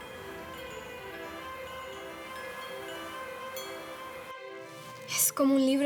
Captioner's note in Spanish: Campanillas colgantes